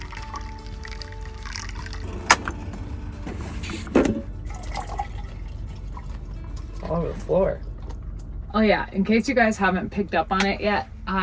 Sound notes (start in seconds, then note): 0.2 water trickling; 4.2 milk trickling